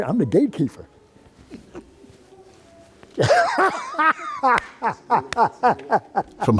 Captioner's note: laughs